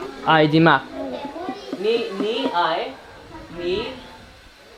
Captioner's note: foreign language; kids In Unison; foreign language